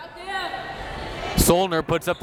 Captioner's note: crowd members shouting